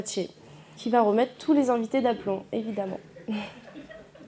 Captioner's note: laughter